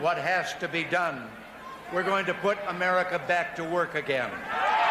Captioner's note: cheers and applause